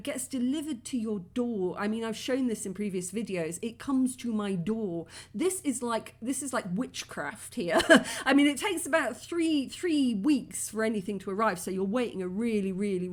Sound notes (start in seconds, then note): 7.8 laughing